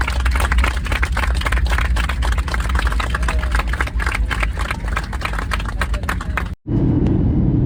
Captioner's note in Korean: 진심에서 우러나오는 박수